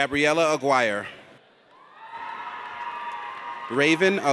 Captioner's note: audience cheers